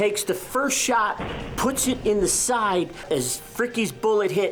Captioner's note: gun firing